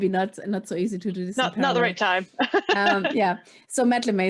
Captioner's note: laughs